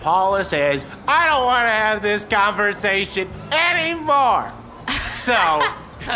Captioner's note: laughs